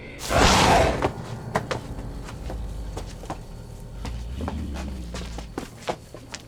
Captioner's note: leaves rustling; werewolf growling; air whooshing; werewolf roars